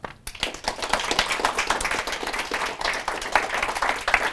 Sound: audience applause

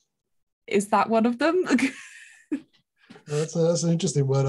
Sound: laughs

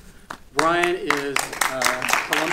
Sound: audience applauding

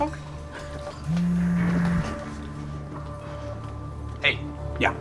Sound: cell phone buzzing

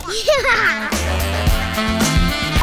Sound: laughs

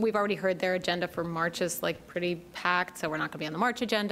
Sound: none

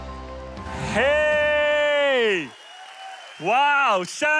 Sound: audience cheers

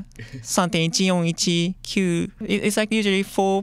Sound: speaking japanese

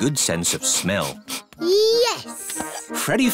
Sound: sniffs

